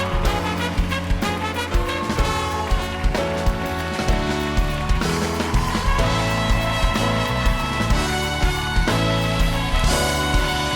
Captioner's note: applause